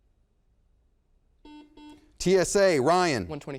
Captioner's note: buzzer beeps